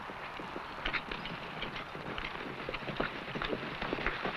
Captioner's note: horse hooves pattering